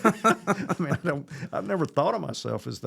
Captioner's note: laughing